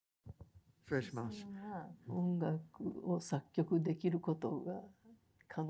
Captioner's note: speaking in foreign language